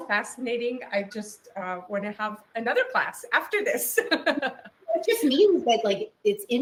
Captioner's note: laughs